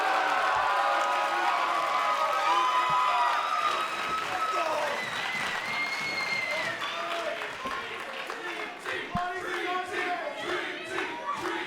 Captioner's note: cheers & applause